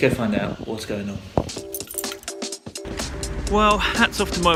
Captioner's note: keys jingling; energetic music